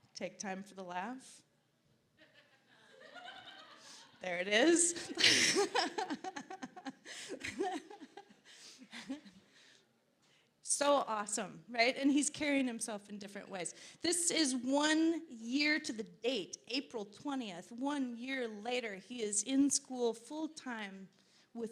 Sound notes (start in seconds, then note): 2.8 audience laughing; 4.8 laughing